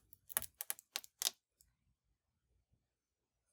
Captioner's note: book spine cracking